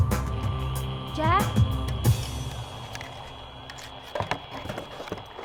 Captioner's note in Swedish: radiostatiskt surrande